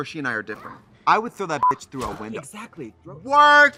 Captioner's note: beep